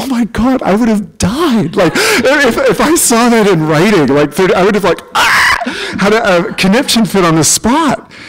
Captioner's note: scream